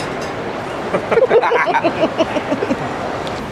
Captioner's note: laughing